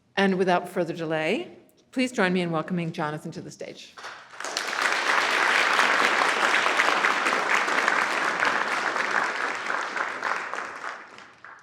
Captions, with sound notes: And without further delay, please join me in welcoming Jonathan to the stage. (audience applauding)